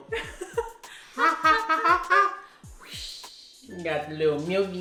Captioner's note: laughing